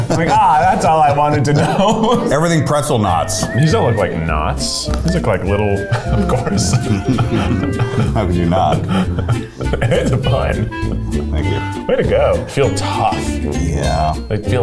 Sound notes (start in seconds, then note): 5.8 both laughing; 7.2 upbeat music; 10.2 laughing